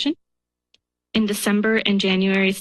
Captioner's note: pause